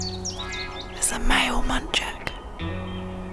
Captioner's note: whispering